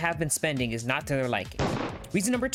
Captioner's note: gunshot